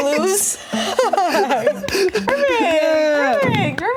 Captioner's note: both laugh